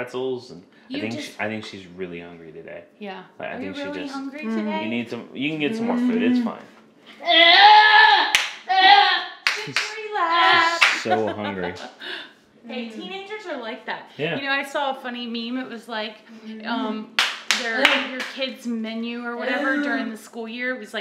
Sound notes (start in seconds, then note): 5.7 hums; 8.2 vocalizes loudly and claps; 9.5 laughs